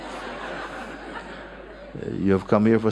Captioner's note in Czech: Smích